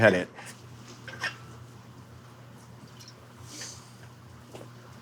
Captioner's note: glass clinking